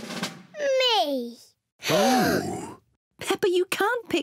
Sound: drum roll; all gasp

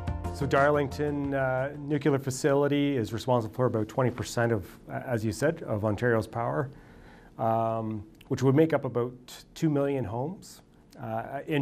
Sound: voiceover

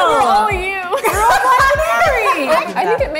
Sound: all laughing

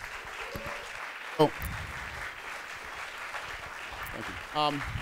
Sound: applause

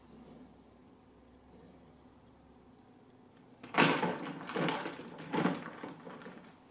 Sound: thunk, thunk noise as eggs are hitting ice and bouncing off each other

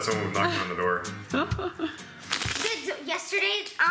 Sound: laughs

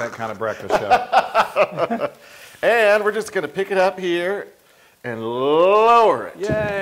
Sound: laugh

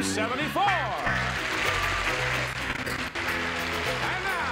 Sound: applause

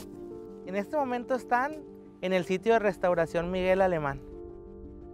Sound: speaking Spanish

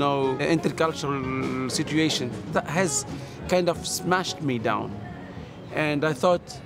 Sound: speaking in foreign language

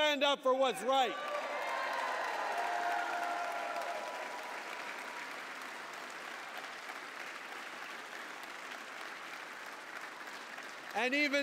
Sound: applause

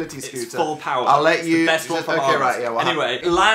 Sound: stuttering

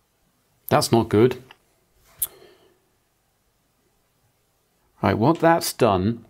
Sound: blank Audio

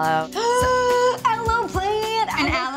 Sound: gasps

